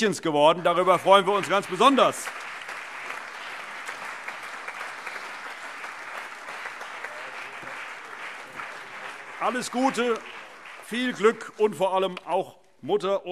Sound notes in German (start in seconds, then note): 2.4 Allgemeiner Beifall